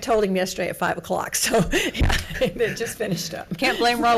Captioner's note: laughs